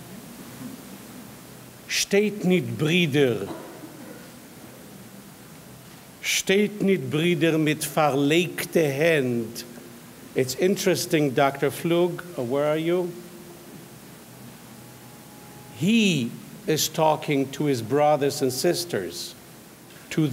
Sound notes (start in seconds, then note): 2.2 speaking in foreign language